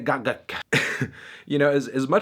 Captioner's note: chuckles